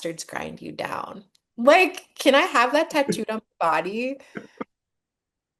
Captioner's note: laughs